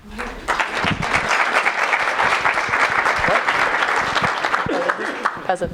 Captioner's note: applause